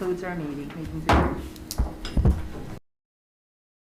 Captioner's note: gavel bangs